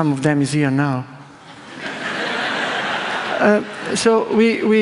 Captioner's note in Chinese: 笑聲